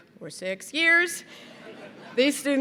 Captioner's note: laughter